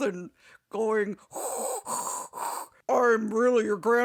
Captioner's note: does bad impersonation of Vader's breathing